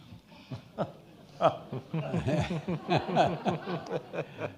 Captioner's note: all laughing